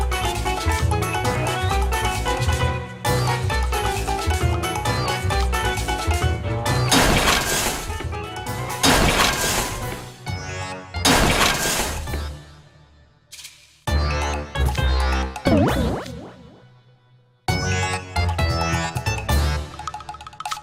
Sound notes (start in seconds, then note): 6.9 crash, bang, boom!